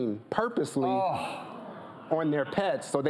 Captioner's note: moans of disgust